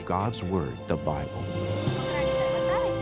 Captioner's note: speaking Gujarati